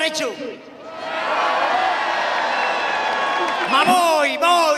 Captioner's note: crowd cheers